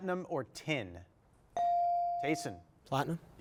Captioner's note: bell chiming